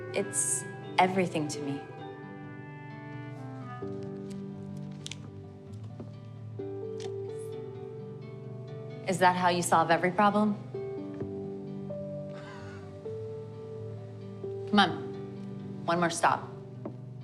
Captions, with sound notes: It's everything to me. Is that how you solve every problem? (scoffs) Come on. One more stop.